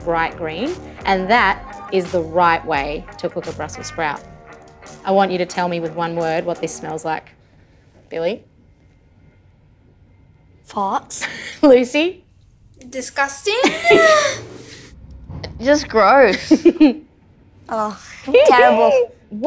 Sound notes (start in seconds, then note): 13.6 laughing; 16.3 laughing